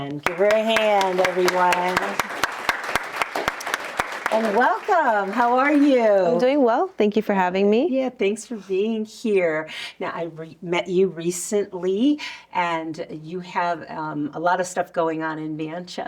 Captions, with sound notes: Give her a hand, everyone. [applause] And welcome. How are you? I'm doing well. Thank you for having me. Yeah, thanks for being here. Now, I met you recently, and you have a lot of stuff going on in Manchester.